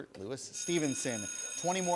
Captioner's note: bell rings